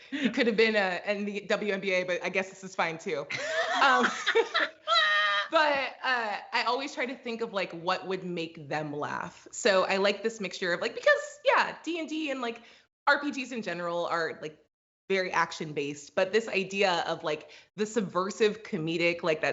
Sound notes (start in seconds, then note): 3.3 both laugh